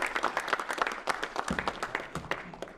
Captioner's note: applause